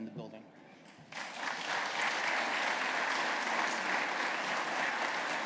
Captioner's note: applause